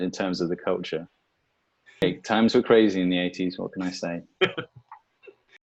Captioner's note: chuckles